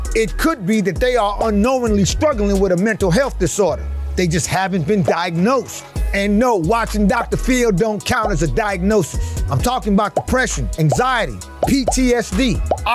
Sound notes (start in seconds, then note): 11.6 word pops